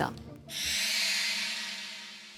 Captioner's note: curious sound effect